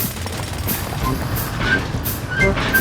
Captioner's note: drilling